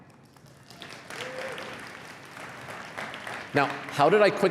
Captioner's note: applause